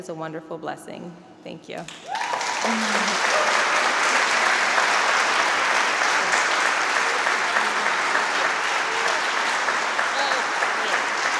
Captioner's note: applause